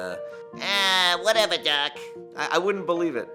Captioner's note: In voice of Bugs Bunny